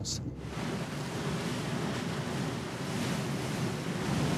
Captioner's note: waves rushing